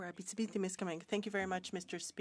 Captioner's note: speaking French